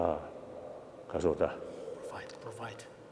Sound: speaking foreign language

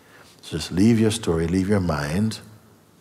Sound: none

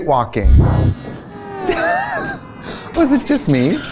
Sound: laughs

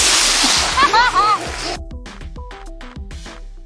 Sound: laughing

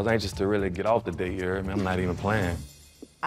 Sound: chuckles

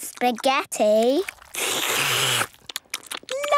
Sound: all slurping

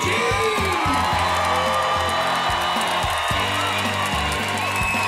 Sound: applause, cheering

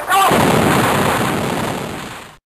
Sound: impact

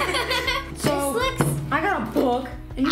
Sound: laughs

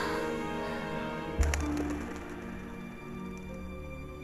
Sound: clapping of wings

